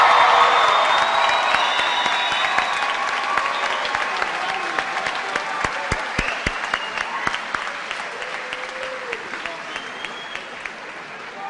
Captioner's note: cheers and applause